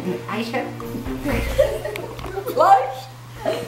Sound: laughing

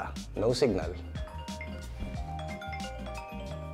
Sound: phone ringtone

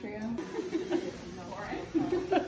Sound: laughs

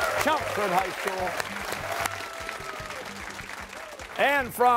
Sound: cheers and applause

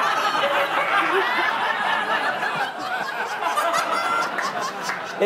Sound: laughter

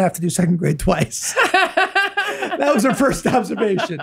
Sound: laughs

